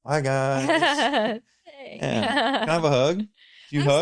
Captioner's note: laughs